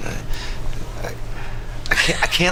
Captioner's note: laughs